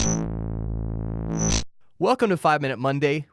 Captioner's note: electronic chiming